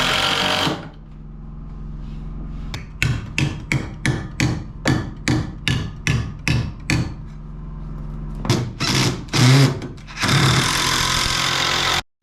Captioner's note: drilling